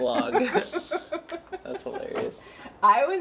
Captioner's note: laugh